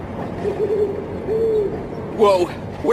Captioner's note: owl hooting